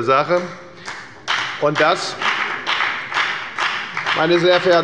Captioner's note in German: Beifall bei der FDP